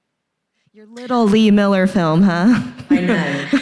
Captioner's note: laughs